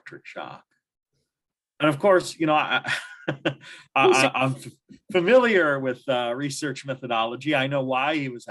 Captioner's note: laughter